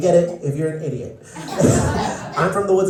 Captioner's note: laughter